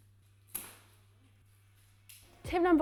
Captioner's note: umbrella opening